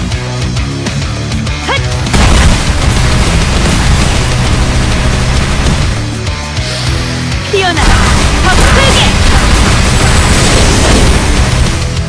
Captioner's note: explosion; explosions